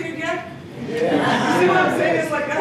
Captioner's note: agreeing